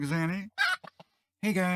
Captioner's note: bawk!